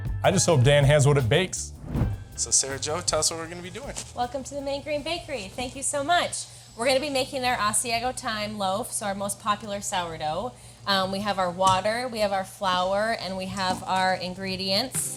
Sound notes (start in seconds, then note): none